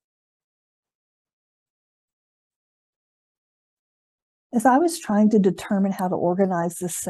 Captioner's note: silence